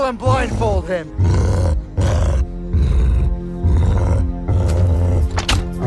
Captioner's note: cyclops growling; suspenseful music playing